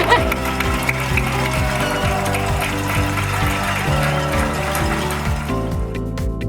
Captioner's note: laughs; crowd cheering; upbeat pop music continues